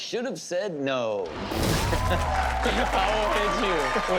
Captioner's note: cheering